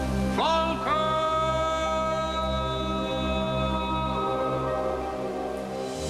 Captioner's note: echoes